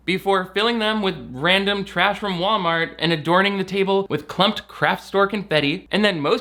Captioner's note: none